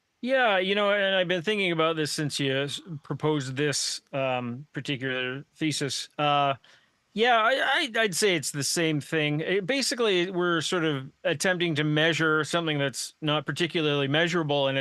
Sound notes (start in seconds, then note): none